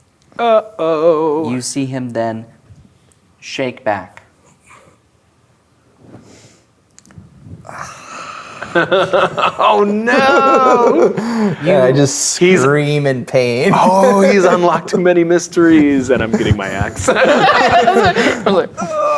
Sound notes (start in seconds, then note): 6.8 quietly imitates screaming; 8.5 laughing; 15.5 players laughing